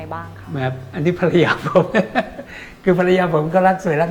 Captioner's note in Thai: หัวเราะ